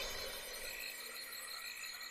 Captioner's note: glittering